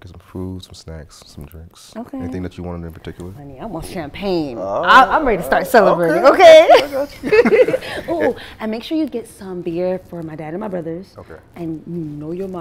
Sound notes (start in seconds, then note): 8.0 laughing